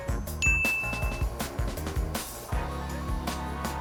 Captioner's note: bell dings